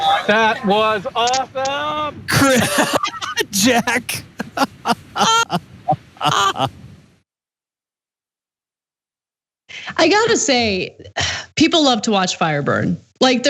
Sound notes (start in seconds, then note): 2.7 laugh